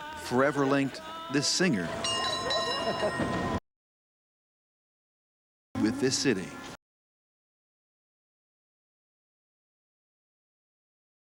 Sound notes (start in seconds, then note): 1.4 bells ringing